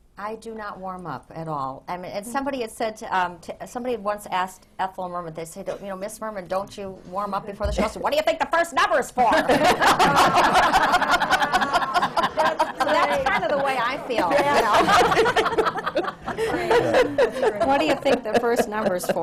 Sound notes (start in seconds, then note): 9.2 laughter